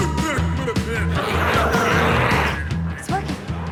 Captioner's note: glowzies growling